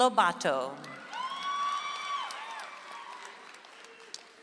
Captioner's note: audience applauds